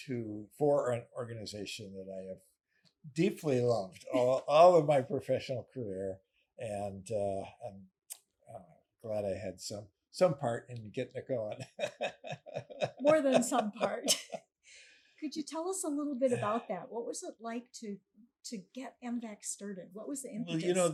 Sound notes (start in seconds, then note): 11.2 laughing